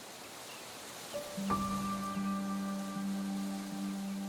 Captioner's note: grass rustling; tranquil music